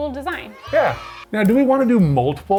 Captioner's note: kids cheering